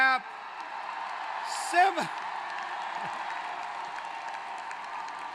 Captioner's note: applause